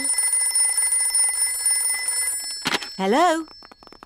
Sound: phone rings

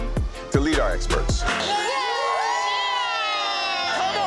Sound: all cheering

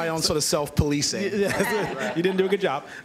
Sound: laughter

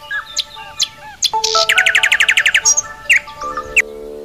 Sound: mobile Alarm ring

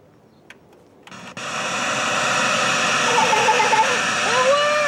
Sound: TV static

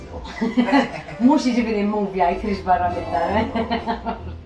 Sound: chuckles

